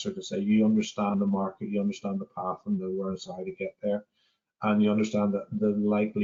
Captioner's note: audio distorts 24.25